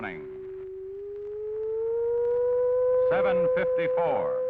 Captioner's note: high pitched alarm